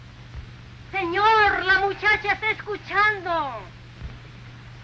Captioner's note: Spanish spoken audio